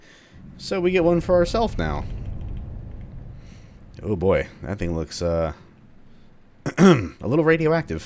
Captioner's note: nervously clears throat